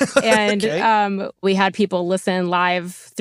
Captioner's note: laughs